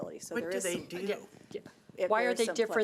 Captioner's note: overlapping chattering